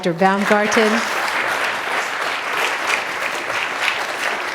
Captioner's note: applause